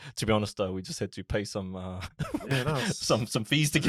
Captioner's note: laughs